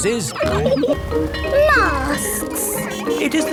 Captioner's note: bell ringing